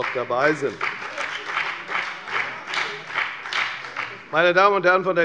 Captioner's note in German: Beifall bei der FDP